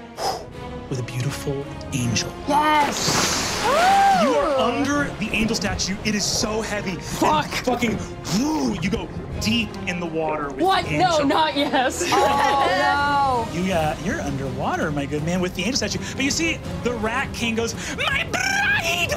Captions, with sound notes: (blows air) with a beautiful angel. - Yes. (water splashing) - You are under the angel statue, it is so heavy. - Fuck. - And fucking, woo. You go deep in the water with the angel. - What, no, not yes. - Oh, no. - You're under water, my good man, with the angel statue. But you see, The Rat King goes, my bride, my bride-to-be,